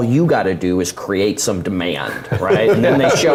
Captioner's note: laugh